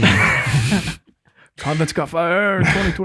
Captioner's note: group laughs